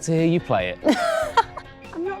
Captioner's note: laughs